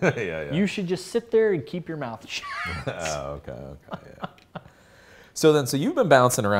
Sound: laughs

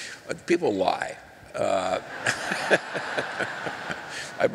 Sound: laughter

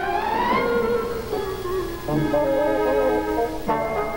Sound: laughs

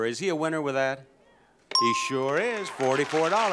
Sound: sound effect dings

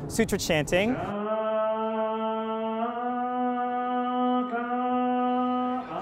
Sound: chanting

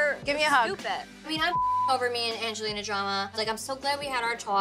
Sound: beep

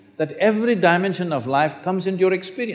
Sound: none

